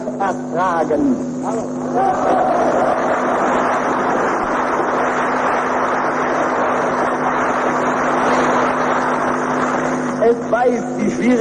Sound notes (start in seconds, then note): 2.4 applause